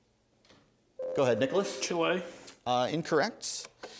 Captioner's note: ding